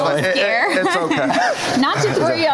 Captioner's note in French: laughter